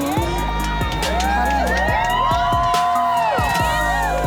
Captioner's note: crowd cheers